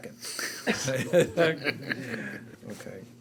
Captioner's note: board members laughing